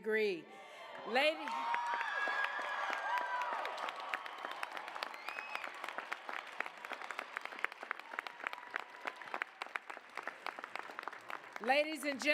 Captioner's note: applause, cheers